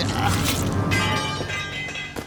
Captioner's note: sword clatters